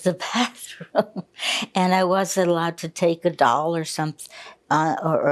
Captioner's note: laughing